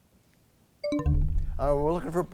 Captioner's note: bell chimes, time expires